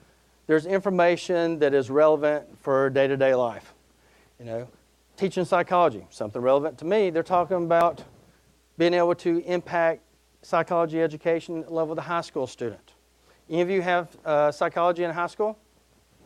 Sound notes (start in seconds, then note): none